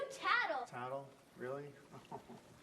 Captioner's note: laughs